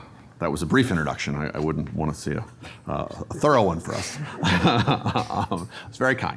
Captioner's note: laughs